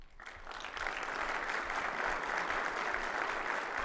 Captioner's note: audience clapping